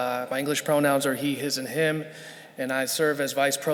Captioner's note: none